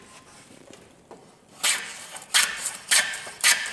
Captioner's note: high grinding noise